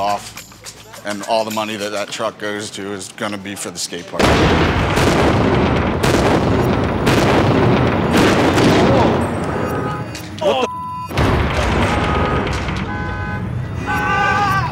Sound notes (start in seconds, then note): 4.2 explosion; 11.1 explosion; 13.8 screaming